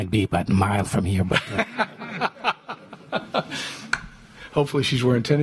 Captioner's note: laughter